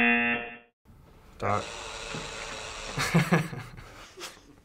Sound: buzzer; chuckles; sensor buzzer buzzing; chuckles

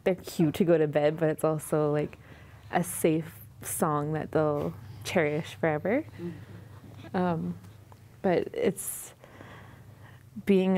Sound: babies voices

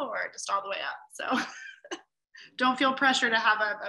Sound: laughs

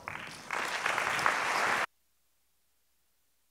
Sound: foreign speaking; applauds

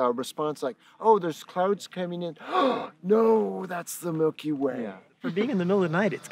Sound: gasp

